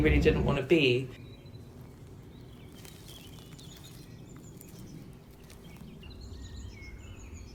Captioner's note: bird song; grass underfoot; bird song